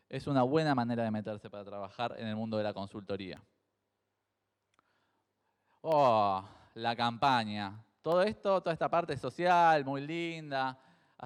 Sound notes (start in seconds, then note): none